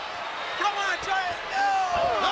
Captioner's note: crowd chatter